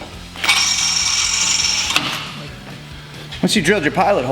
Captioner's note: high-pitched whirring